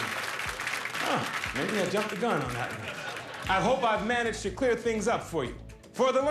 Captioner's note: laughter; applause